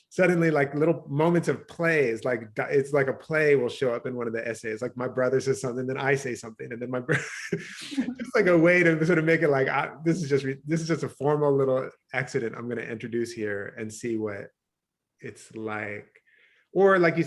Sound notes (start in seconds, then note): 7.0 chuckles